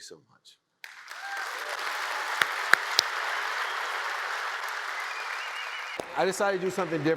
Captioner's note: audience cheers and applauds